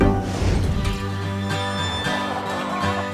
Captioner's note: birds; windstorm; cackling